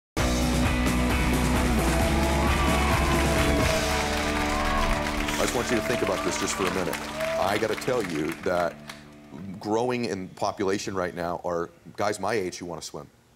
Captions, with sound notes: (upbeat music) (audience cheering) I just want you to think about this just for a minute. I gotta tell you that growing in population right now are guys my age who wanna swim.